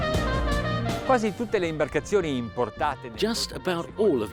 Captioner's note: speaks in foreign language